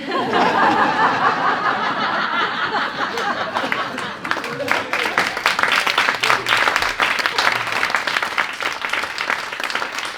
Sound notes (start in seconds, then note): 0.0 laughter; 2.7 applause